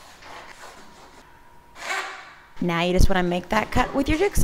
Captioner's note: saw whirring